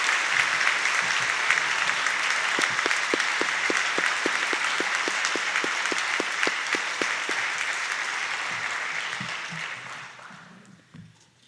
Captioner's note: applause